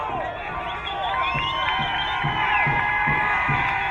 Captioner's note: crowd cheering